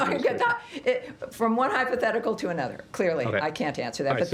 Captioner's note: laughter